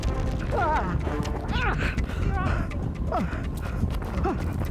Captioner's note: Larry groaning